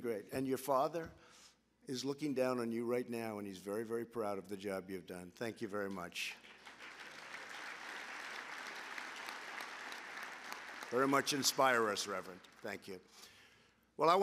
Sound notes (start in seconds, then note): 6.2 applause